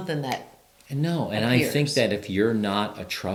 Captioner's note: snaps